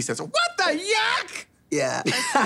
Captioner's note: laughing